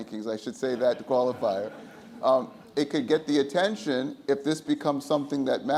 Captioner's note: audience laughs